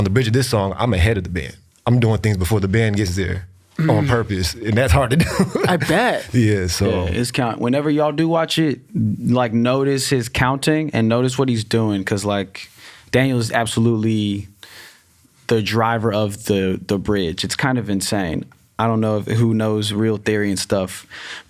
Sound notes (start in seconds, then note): 3.8 laughs